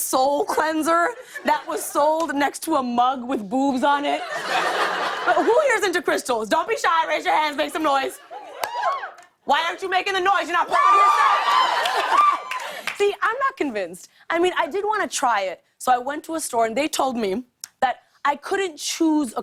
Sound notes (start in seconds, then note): 4.2 laughter; 8.6 scattered cheers; 10.6 crowd cheers